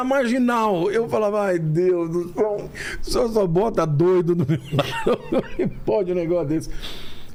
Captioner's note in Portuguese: risadas